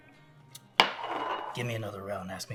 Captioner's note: glass clanks